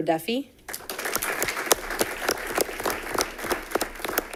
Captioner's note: audience applauding